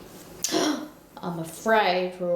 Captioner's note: gasps